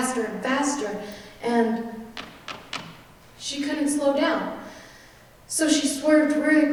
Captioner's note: stomping